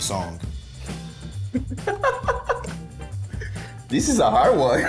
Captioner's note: laughs; laughs